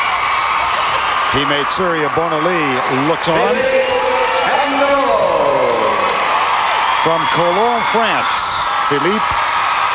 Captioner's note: cheers and Applause